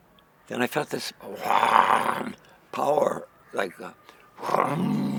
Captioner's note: growls